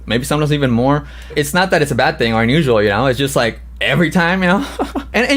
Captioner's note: laughs